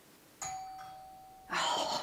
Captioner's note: doorbell rings